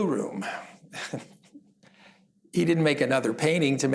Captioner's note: chuckles